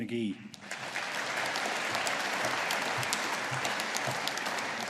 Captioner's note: audience applauding